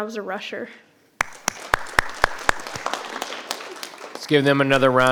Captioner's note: audience applauding